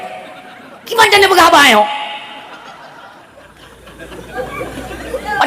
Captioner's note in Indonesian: tertawa